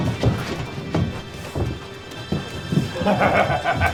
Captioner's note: yelps; laughs